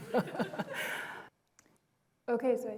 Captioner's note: laughter